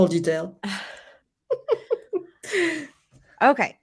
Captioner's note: everyone laughs